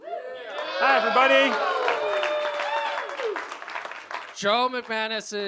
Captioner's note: applause